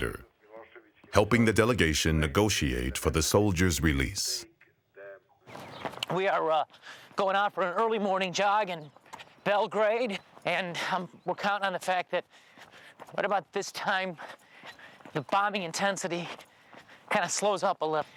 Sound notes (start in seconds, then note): 3.6 person speaking in foreign language